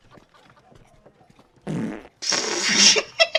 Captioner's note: city noises; farts